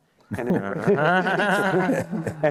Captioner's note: laughter